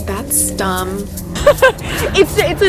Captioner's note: laughing